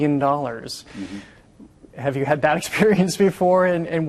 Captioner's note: laughing